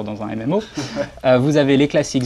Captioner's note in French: rire